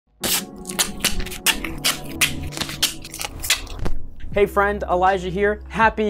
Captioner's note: tape noises